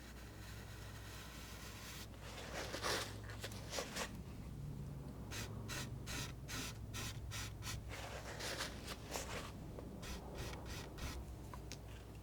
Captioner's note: scratching